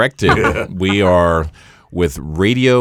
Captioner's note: laughs